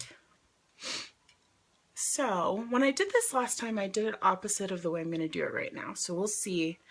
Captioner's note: sniffs